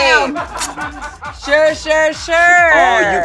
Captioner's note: crew laughing